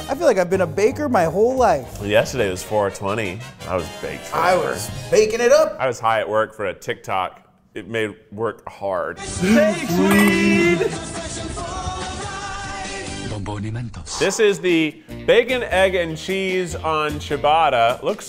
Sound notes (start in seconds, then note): 13.5 announcer speaking in foreign language